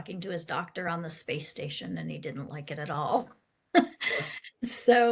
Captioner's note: laughs